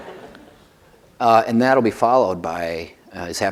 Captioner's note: laughter